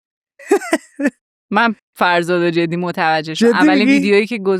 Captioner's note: laughs